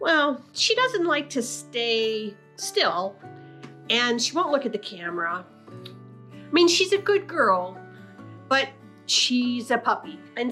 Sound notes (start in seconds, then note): none